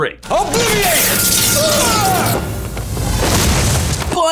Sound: wand firing

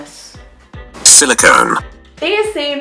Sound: computer Voice

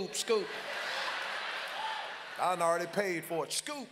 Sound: congregation laughs loudly

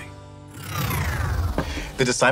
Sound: effects whooshing

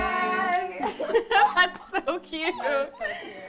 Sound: everyone laughing

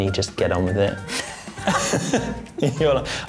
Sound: laughs

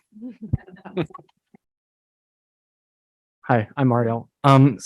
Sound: group laughs

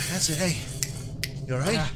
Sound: snaps

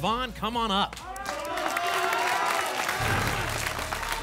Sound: applause and cheering

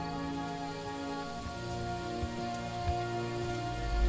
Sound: insects chirring

